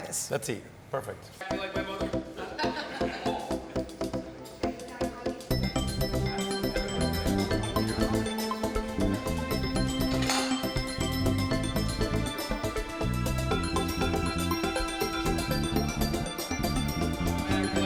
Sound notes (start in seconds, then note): 3.0 upbeat music; 4.3 people chatting